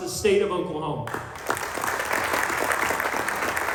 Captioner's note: applause